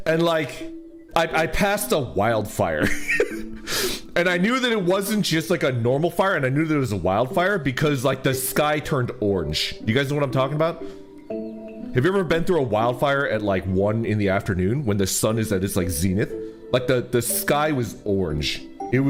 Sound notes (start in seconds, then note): 2.8 laughs